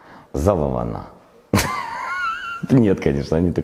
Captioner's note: laughs